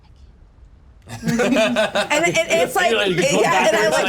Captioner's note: laugh